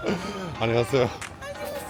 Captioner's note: speaking in foreign language